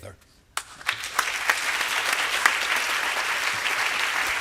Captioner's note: applause